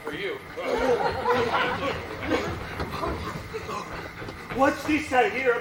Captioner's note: Friar breathes heavily